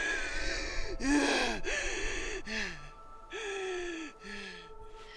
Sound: banshee panting

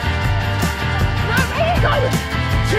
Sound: background shouts

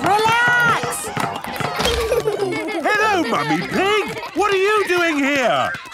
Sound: laughter

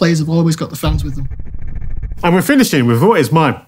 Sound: transition reverberates

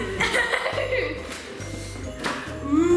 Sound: laughing

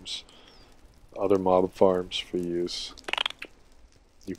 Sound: chirps

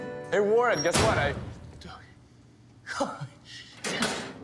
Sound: mutters, laughs

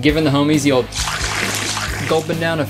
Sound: liquid sloshing

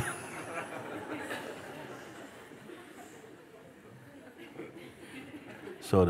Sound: laughter

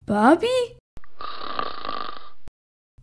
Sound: snoring

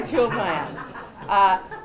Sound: laughter

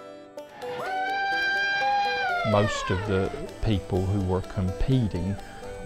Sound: hollering

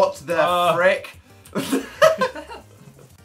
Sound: both laugh

